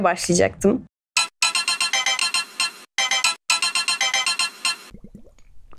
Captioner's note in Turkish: Telefon çalıyor